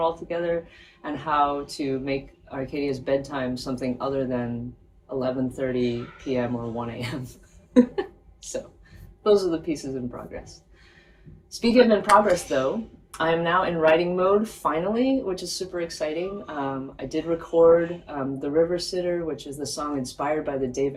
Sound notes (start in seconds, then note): 7.7 laughs